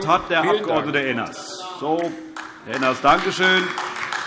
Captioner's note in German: Beifall AfD